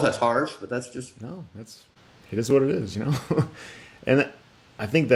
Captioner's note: laughs